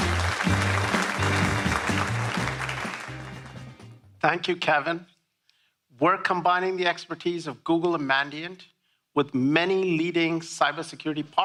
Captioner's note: applause